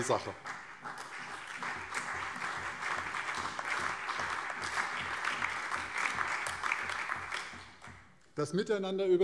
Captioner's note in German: Beifall